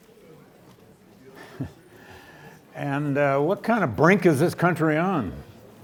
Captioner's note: chuckles